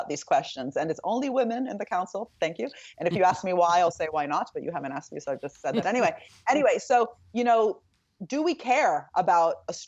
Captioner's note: speaking in italian